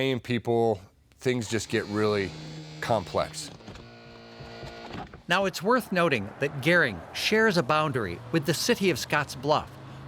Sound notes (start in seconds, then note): 4.1 electronic whirling sound